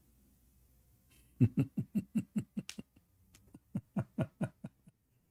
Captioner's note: Ketawa